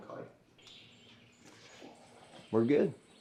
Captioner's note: birds chirp